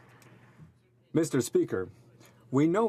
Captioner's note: speaking French